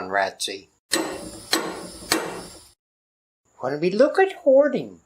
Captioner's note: hammer knocking